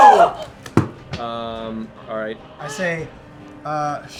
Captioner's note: cheering